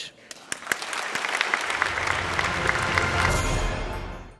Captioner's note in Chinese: Applause; 掌聲